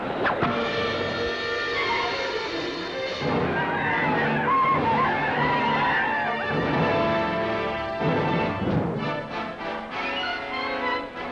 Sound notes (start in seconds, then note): 0.2 arrow whooshes; 0.2 ominous orchestral music; 3.7 Indians howl